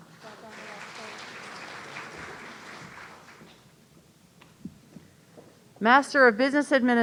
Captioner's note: audience applauding